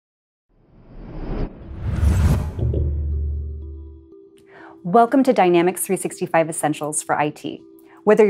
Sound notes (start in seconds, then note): 0.6 low whooshing; 1.6 low thudding; 2.3 calm music